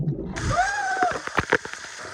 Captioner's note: screams